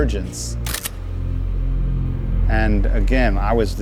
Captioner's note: camera snapping